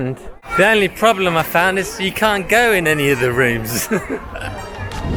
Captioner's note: laughs